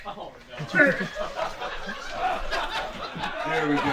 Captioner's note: laughter